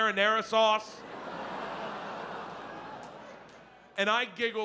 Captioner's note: audience laughs